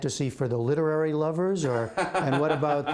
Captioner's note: laughter